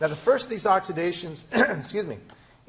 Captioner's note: clearing throat